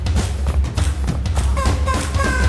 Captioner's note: vocalizing